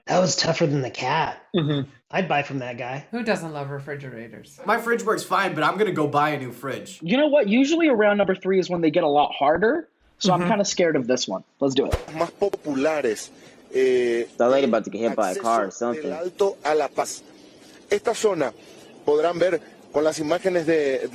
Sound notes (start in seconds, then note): 12.6 reporter speaking Spanish